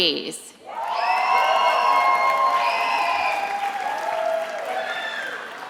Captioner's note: attendees applauding and cheering